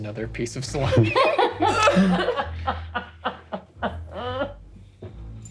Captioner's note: laughing